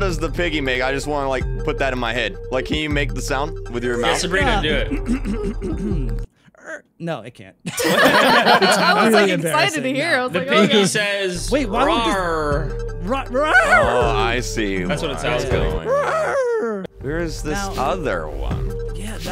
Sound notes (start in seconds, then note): 6.5 hawks and grunts; 7.6 مجموعة تضحك